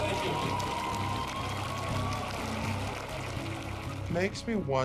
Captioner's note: cheers and applause